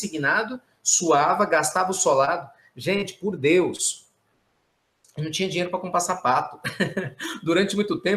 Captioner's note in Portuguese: risos